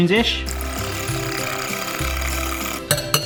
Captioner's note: bright accordion music; whisk rattling at high speed; taps "shave and a haircut" with whisk